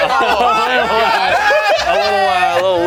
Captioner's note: group laughing